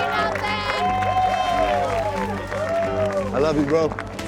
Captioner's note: everyone cheers